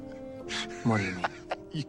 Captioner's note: laughs